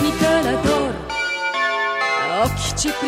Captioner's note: alert tone in the airport